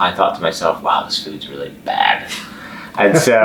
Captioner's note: laughing